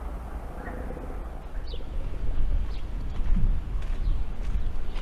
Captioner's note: birds chirping